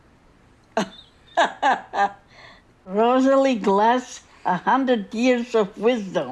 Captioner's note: laughs